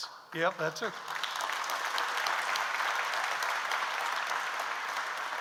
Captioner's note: audience applauds